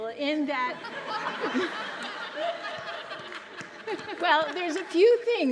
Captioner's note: audience laughs loudly